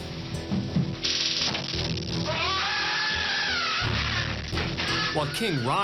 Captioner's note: screams